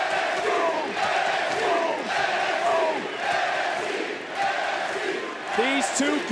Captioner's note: crowd chants "nxt"